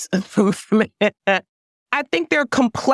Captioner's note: laugh